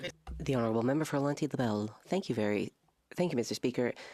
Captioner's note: speaking French